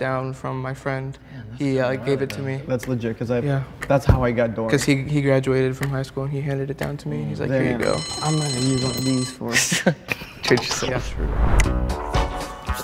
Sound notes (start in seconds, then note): 7.9 bell rings